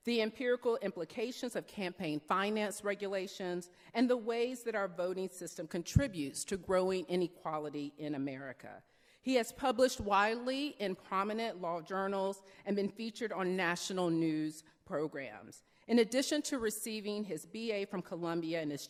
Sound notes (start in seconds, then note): none